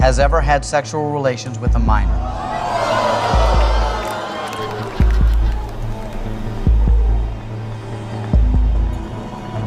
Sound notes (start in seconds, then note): 4.7 crowd applauding and laughing; 7.0 tense music